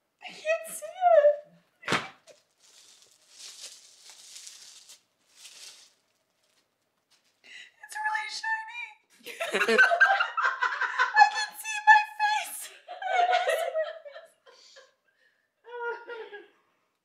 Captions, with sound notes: - I can't see it. (box thudding on floor) (plastic rustling) It's really shiny. (laughing) I can see my face. I don't wanna see my face.